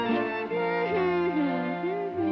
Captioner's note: humming